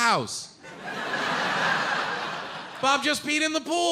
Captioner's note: audience laughing